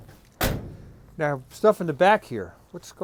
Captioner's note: car door slams